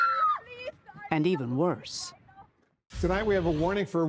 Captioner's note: screaming